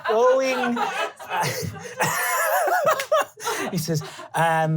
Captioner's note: laughing